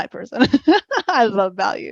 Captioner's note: laughs